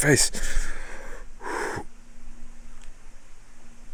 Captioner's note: panting